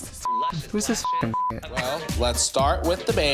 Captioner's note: beep